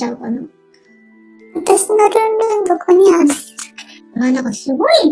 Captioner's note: laughs